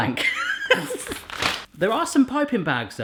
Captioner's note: he laughs